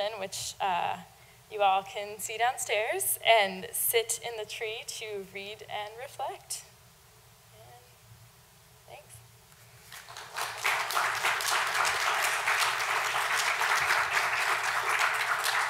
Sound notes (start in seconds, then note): 11.5 audience applauds